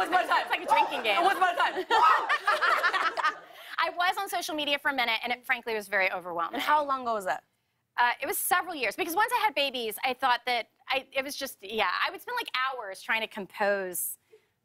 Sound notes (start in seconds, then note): 0.0 man cheers; 1.2 laughter